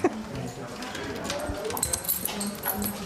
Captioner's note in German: Schlüsselklimpern